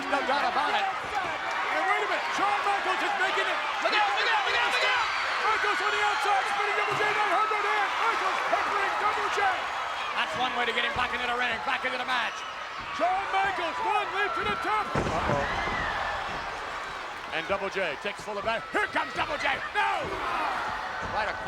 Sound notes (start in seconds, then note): 6.1 audience cheering and shouting; 15.4 audience groans